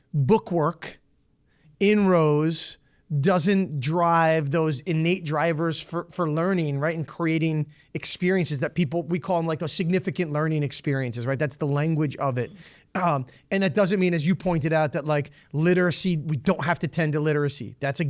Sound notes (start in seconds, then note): none